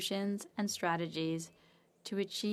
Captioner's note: speaking French